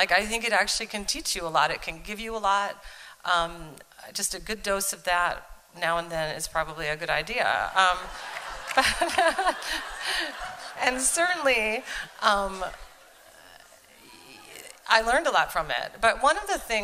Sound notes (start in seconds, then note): 8.0 laughter and applause